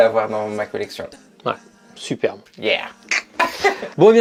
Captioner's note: laughs